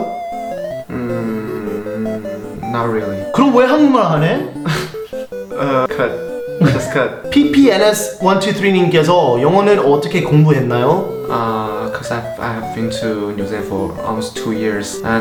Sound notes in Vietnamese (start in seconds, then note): 4.2 cười đau đớn